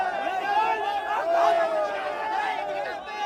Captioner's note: cheers